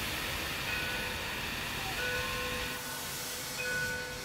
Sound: steam hissing; train bell

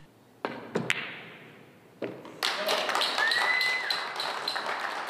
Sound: audience applauds

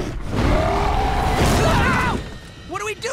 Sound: roaring; screaming

